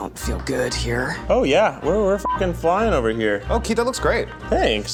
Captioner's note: beep